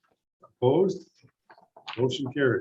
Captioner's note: silence